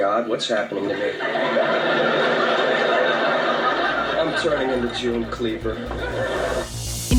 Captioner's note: laughter